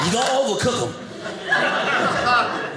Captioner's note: audience laughing